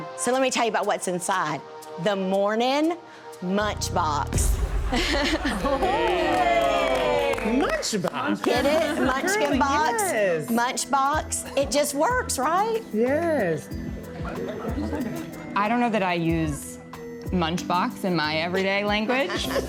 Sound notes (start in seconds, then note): 4.9 crowd cheers; 5.0 laughs